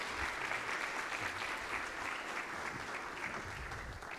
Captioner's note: audience applauds